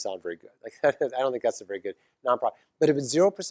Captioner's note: laugh